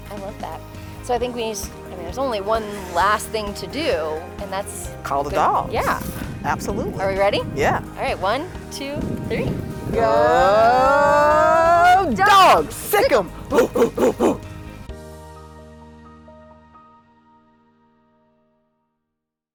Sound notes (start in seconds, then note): 9.7 in Unison; 13.1 both bark